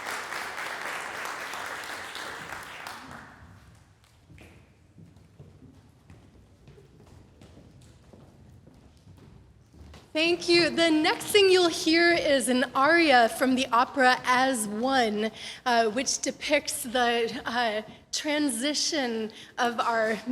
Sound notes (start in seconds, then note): 0.0 applause fades; 3.7 rustling of paper, footsteps